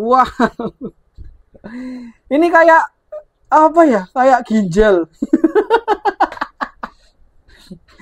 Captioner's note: laughs